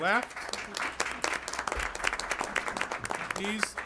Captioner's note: applause